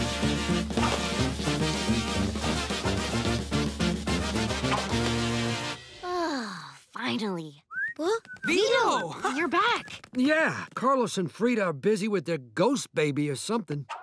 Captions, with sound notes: [sighs] Finally. - [whistling] - Vito! You're back. Yeah, Carlos and Frida are busy with a ghost baby or something.